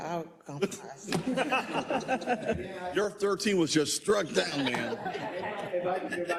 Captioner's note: laugh